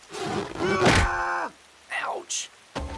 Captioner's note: Crunch